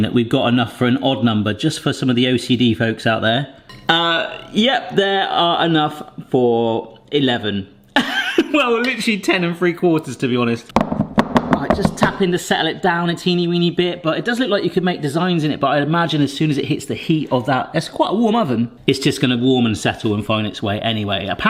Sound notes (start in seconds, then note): 7.7 laughs; 10.8 tray thunks